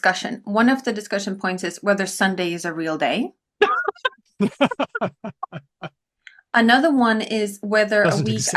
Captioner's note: laughter